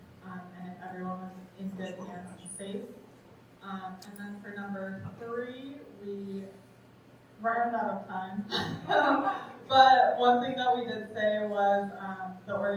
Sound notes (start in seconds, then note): 8.5 chuckles